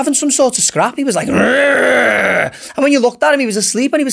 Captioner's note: growls